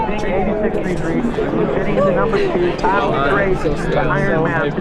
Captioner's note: crowd and commentary mingling